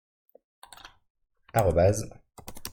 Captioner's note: Clic